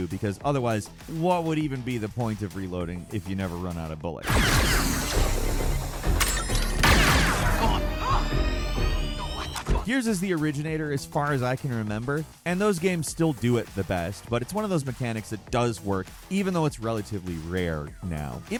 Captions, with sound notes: because otherwise what would even be the point of reloading if you never run out of bullets? (blaster firing) "Gears" is the originator as far as I can remember. And those games still do it the best, but it's one of those mechanics that does work even though it's relatively rare now,